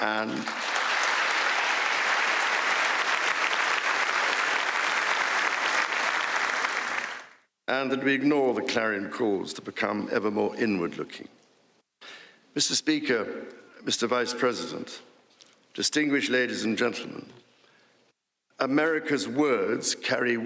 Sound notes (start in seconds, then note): 3.8 applause